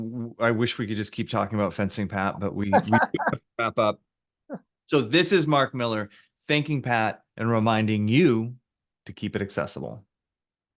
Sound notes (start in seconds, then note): 2.7 laughing